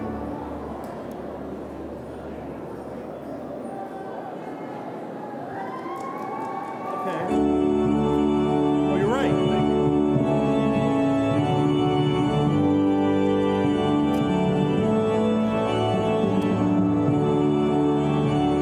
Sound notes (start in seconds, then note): 2.0 audience cheering; 7.6 bright music